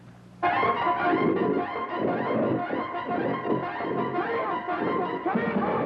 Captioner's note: intense music; growling